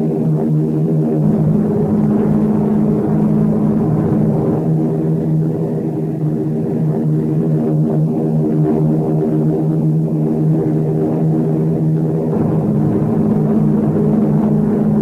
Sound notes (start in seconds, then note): 6.8 plane engines roaring continues